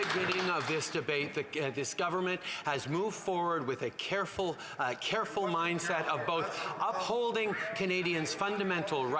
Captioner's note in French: voix de l'interprète